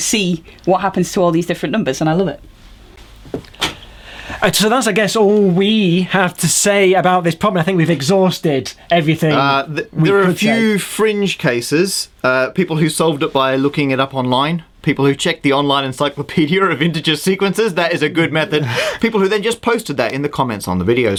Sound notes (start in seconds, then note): 18.6 laughs